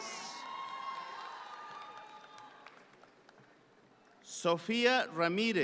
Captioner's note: audience cheering